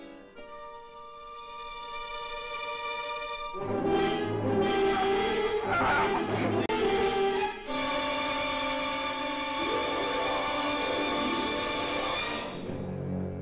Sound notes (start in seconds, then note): 0.3 suspenseful music; 4.8 choking; 4.8 suspenseful music